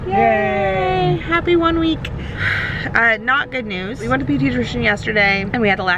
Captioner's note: sigh